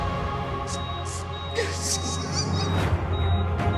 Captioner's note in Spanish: Pitidos de la telemetría